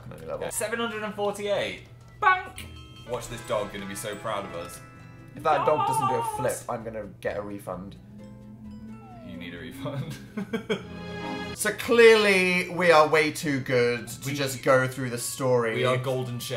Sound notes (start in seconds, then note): 10.3 laughs